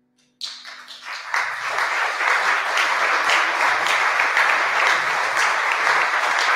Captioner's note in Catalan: aplaudiments